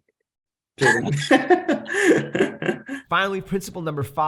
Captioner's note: both laughing